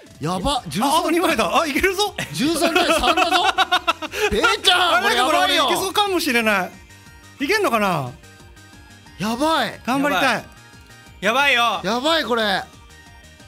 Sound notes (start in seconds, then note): 2.2 giggle